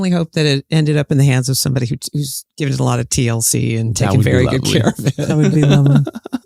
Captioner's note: chuckles